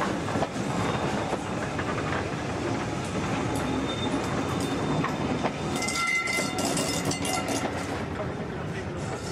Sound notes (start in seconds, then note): 3.2 train passes